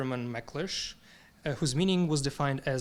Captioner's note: speaking in foreign language